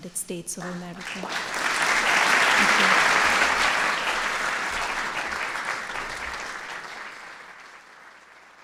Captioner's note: applause